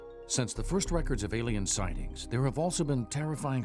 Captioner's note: voiceover